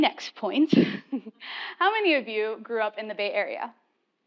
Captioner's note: laugh